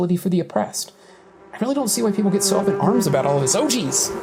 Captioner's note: ominous buzzing